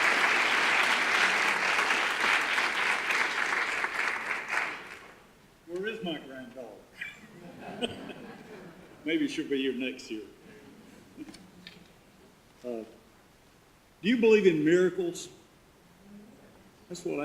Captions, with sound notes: - Where is my granddaughter? (audience laughter) Maybe she'll be here next year. Do you believe in miracles?